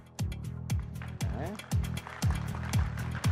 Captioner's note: upbeat music; audience applauding